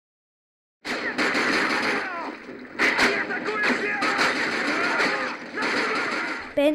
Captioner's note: gunfire